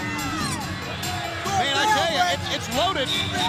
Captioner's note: crowd chatter